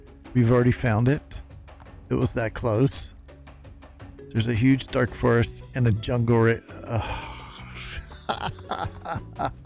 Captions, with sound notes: We've already found it? It was that close? There's a huge dark forest and a jungle right... (laughs)